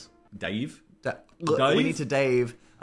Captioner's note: hosts gurgle